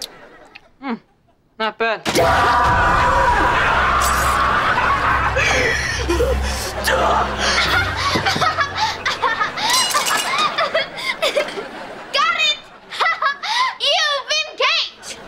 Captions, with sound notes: Mm, not bad. [screaming] [laughing] Got it! You've been caked!